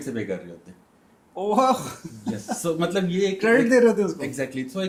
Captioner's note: laughter